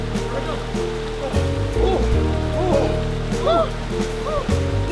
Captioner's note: both exlaiming